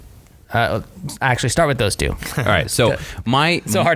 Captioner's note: laughs